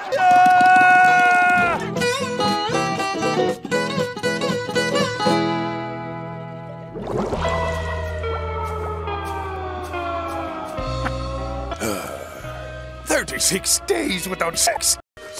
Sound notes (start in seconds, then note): 11.7 sigh